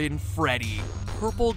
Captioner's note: SFX: Static glitching